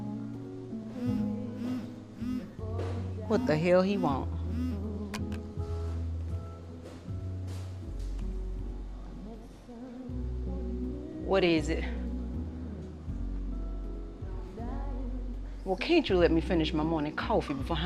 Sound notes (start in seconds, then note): 1.5 phone buzzing